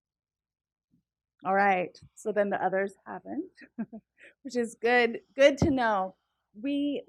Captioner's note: laugh